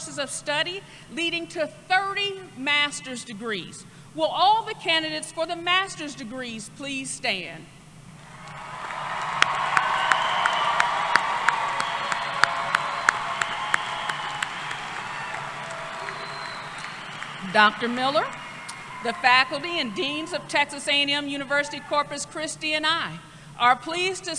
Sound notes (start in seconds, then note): 8.2 applause